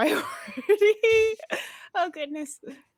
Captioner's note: laughs